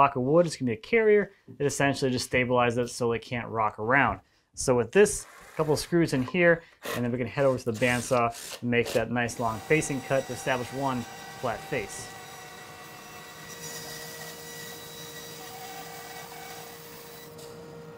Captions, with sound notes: gonna be a carrier, it essentially just stabilizes it so that it can't rock around. So with this, couple of screws in here and then we can head over to the bandsaw and make that nice long facing cut to establish one flat face. (machine sawing)